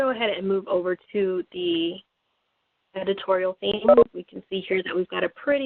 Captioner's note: beeping